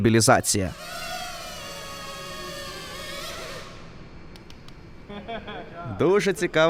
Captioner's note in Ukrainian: дзижчання робота